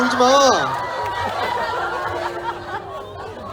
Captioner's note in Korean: 웃음